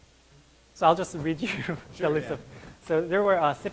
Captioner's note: laughing